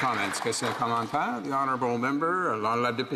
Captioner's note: some Applause